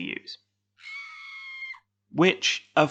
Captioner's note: distant scream